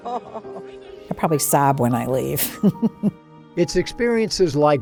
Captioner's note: chuckles